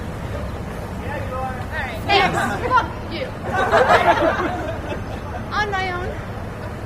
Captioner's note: laughter